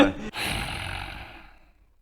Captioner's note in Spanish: suspiro indignado